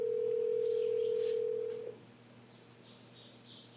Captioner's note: phone rings